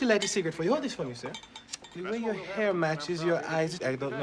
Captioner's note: jamaican Accent